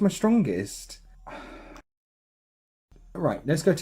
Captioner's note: exhale